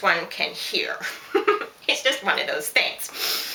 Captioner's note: laughs